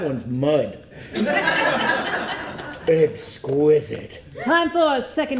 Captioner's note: audience laughs